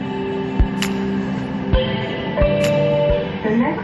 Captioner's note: next Station Chime